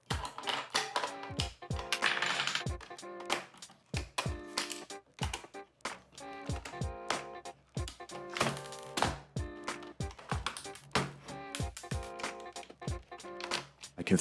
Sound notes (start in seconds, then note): 0.1 dummy batteries pops out; 2.6 unscrewing noises